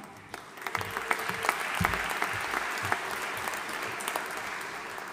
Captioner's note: audience applauding